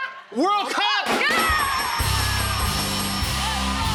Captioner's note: cheers and applause